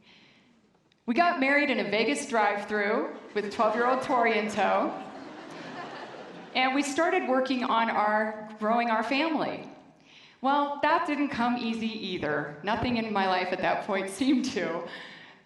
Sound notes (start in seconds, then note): 4.9 laughter